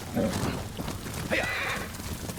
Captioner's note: horse neighs